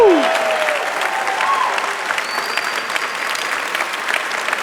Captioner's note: audience applauding